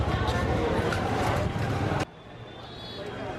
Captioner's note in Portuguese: som de conversas